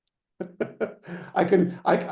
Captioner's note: laughing